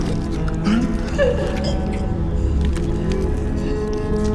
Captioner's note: whimpers